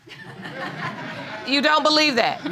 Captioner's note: audience laughing